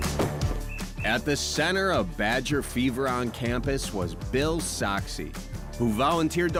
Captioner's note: whistle blows